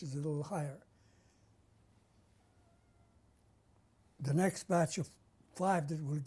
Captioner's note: pauses for 3 seconds